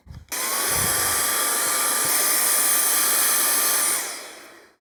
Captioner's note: blower whirring